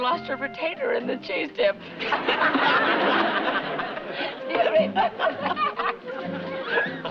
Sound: laughter

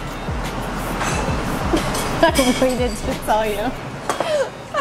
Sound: laughing

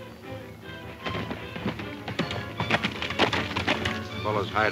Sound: horse hoof beats

